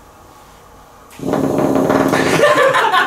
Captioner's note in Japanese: 右手が振動する音